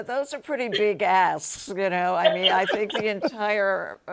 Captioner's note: laughs